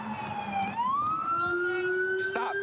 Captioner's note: sirens